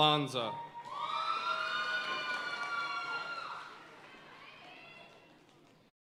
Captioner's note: audience cheering and applauding